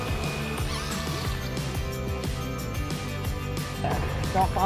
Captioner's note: leaf blower whirring; drill buzzing